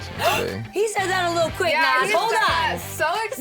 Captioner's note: gasp